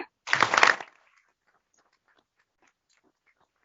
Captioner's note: applause